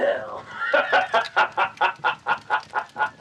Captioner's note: super Satanic laughter